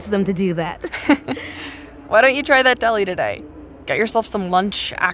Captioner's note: laughing